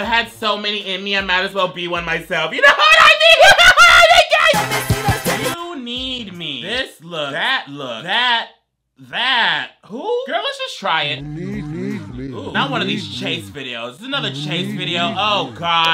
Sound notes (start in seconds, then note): 2.7 laughs; 11.6 disembodied Voice